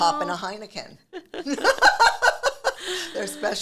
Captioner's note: both laughing